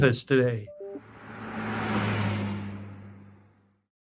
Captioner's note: car accelerates